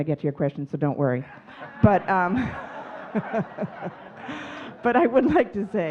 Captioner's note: audience laughing